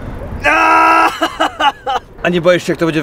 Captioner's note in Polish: kolejne odgłosy bólu i rozpaczy